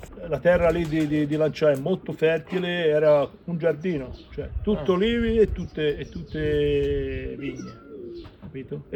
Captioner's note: talking in italian